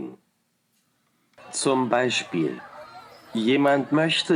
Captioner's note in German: Im Hintergrund Kinderlachen